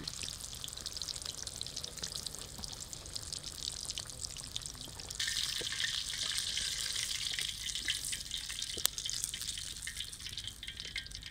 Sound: sizzling sound

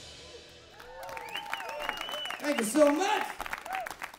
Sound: applause

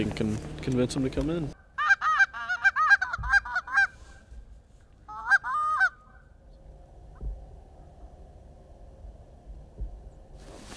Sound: goose calls

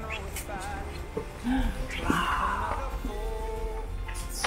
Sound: quitely

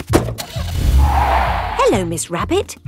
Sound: car starting; tires screeching

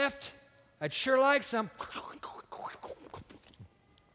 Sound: munching

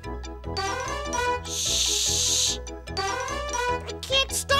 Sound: horn blows

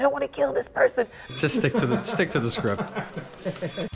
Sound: laughter

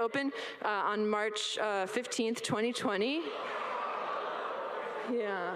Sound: all laugh

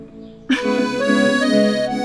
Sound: laughs

